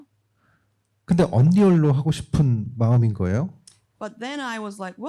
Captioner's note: speaking korean